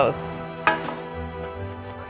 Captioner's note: metal clanks